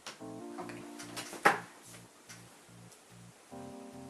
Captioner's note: bed makes noise again